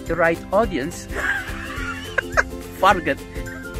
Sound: laughing

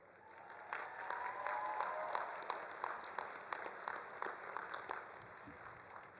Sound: all applauding; all cheering

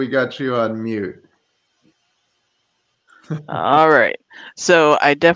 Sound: laughter

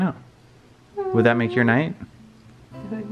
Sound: hums

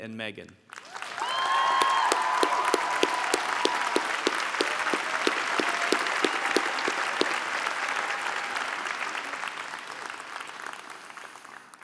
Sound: applause

